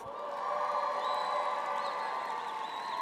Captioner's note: applause